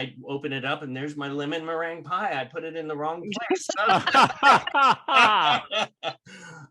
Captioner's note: laughter